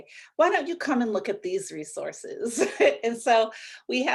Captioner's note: laughs